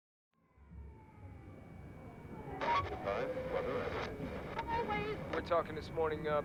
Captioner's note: music humming; people chattering